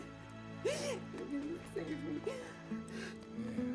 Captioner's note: sobbing